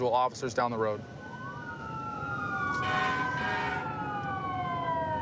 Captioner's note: emt sirens blaring